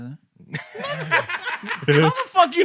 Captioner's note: laughter